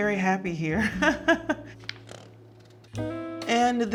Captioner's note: Serena laughing